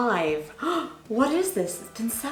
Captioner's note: gasps